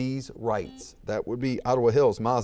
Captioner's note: buzzer beeps